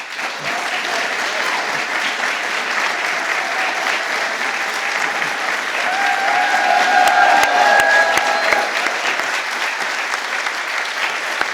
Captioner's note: applause